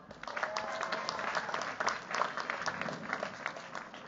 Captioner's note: cheers, applause